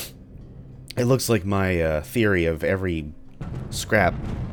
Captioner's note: thunder